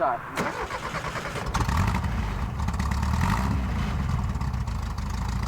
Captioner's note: engine revving